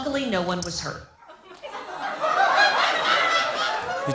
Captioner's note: laughter